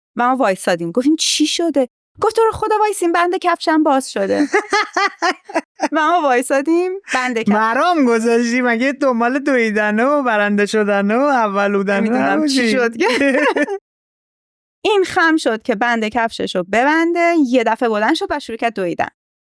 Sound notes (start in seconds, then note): 11.8 laughs